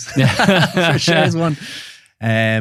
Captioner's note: both laughing